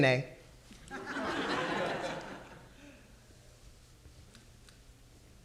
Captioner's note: audience laughing